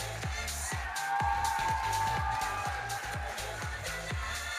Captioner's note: audience cheering